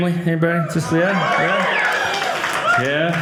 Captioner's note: audience cheering